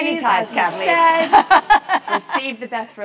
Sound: laugh

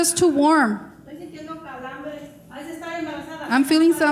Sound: speaking in foreign language

